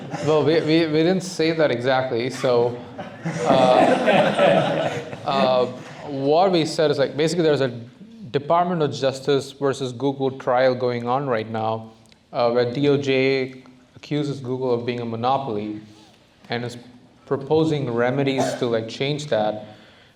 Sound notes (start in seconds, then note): 0.0 laughter; 2.6 laughter